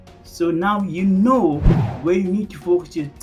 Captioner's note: air whooshing